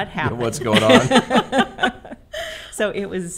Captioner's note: all laughing